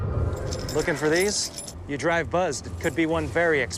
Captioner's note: keys jingling